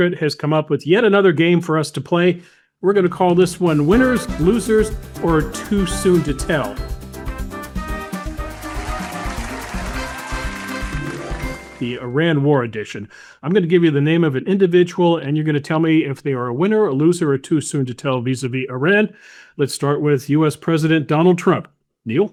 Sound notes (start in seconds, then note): 7.0 lively upbeat music; 7.9 audience cheering; 8.0 audience applauding